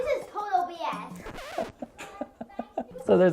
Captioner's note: record scratches; laughing